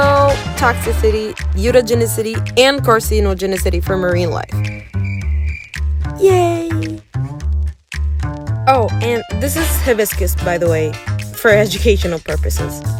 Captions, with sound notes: [صوت صرصور الحقل] أوه! وهذا كركديه بالمناسبة…. لأغراض تعليمية.